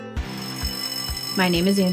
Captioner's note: school bell rings